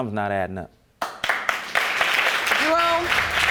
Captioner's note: applause